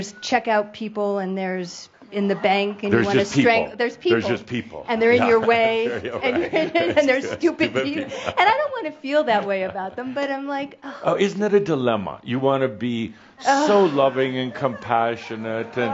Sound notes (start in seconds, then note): 5.2 Adamus chuckles; 7.7 she chuckles; 8.3 chuckling